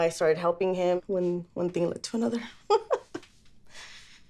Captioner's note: laughs